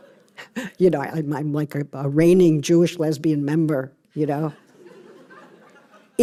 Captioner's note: laughter